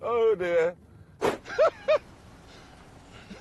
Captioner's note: laughs